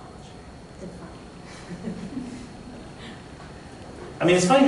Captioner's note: laughter